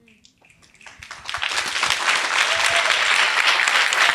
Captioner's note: applause